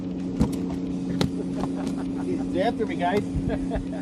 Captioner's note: fisher men laughing